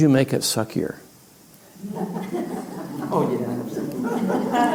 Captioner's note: laughter